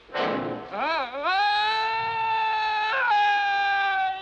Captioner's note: Paul screaming